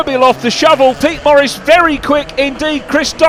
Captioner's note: engines roaring